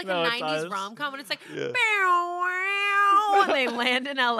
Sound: vocalizes

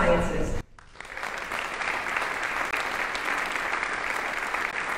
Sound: audience applauding

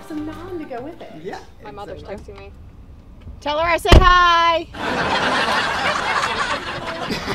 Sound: laughter

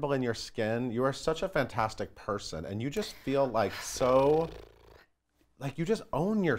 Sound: sighs

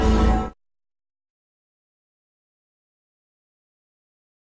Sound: silence; electricity and music continuing

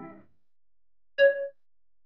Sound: p i n g

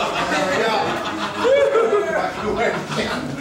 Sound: giggles, whoops

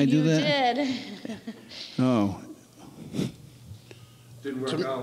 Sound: laughs

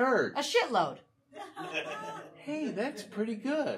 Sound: audience laughing

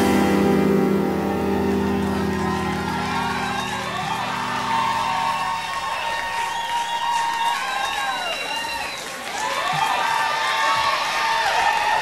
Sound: audience cheering

